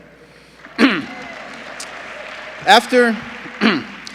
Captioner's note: applause